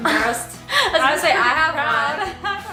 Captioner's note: laughs